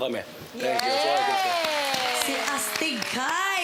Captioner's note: crowd cheers, applauds